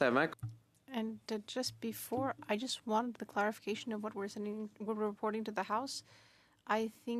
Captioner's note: speaking French